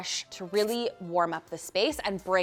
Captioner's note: marker skritching